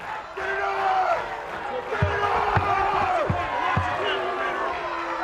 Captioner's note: audience jeers